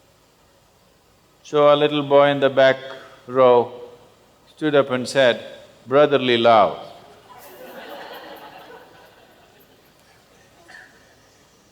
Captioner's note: laughter